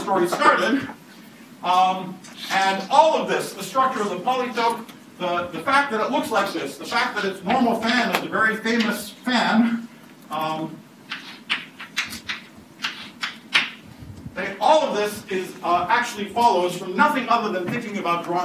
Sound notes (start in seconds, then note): 12.8 chalk writing on chalkboard